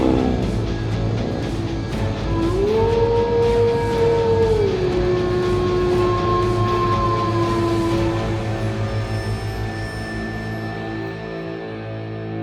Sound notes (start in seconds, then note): 2.3 werewolf howling; 9.5 dramatic music